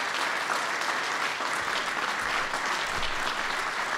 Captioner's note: applause